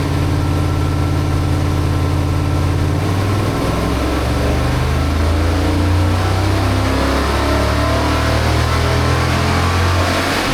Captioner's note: engine revving